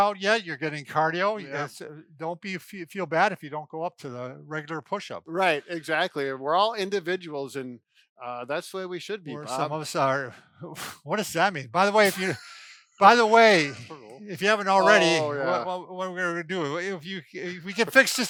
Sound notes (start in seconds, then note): 11.9 laughs; 12.1 sighs